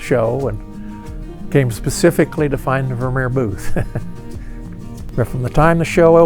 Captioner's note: laughs